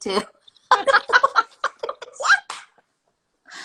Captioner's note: laughter